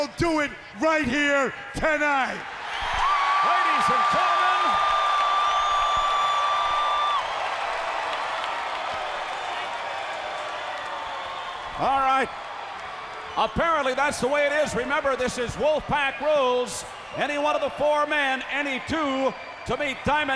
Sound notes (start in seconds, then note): 2.6 crowd cheering; 5.6 crowd cheering